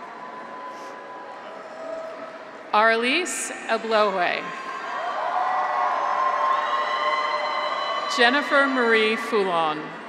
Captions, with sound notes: (graduates cheer) Arelyss Eblohoue. (graduates cheer) Jennifer Marie Foulon.